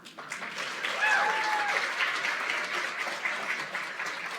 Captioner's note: applause